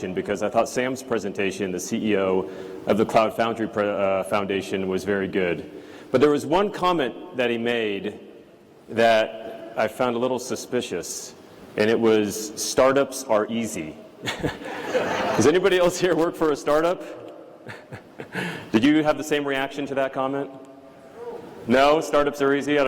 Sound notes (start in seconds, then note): 14.2 laughter